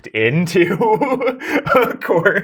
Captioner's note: laughing